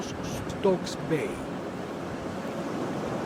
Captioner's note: waves sounds